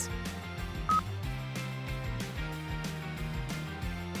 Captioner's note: button beeps